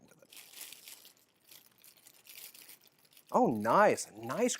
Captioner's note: crackling fire sound